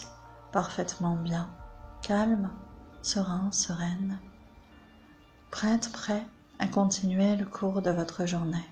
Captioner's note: echo